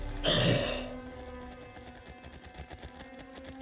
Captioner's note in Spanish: huesos crujiendo; el cadáver respira con dificultad